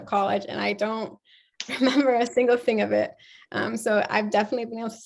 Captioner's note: laughter